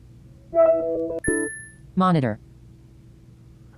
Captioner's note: humming, ping